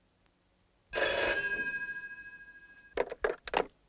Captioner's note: phone ringing